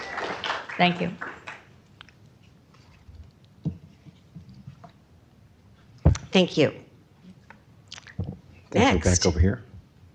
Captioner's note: applause